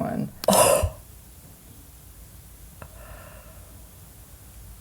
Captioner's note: gasps